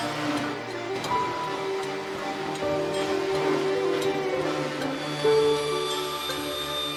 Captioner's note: reflective music; saw buzzing